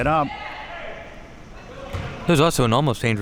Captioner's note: spectators shouting